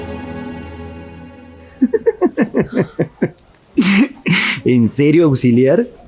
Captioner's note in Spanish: risas